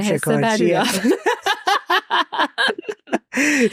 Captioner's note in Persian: خنده